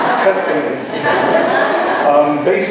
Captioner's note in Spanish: laughs